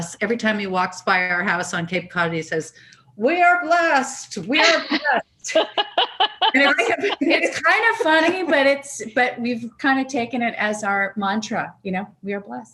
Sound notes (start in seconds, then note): 5.5 laughs